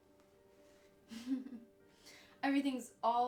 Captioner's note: chuckles